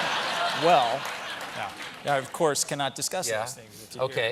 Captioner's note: laughter